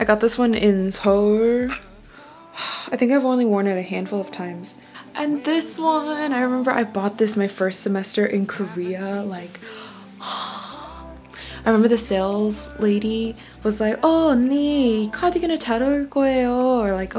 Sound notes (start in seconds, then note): 9.7 sighs; 14.5 speaks Korean